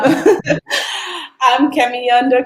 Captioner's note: laughs